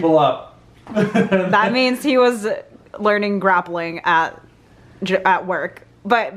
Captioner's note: laughs